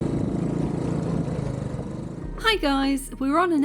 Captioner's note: motorbike engine giving way to chill music